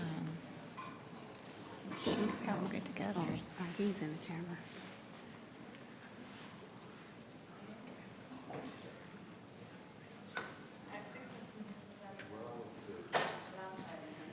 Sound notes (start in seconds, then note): 10.7 people chattering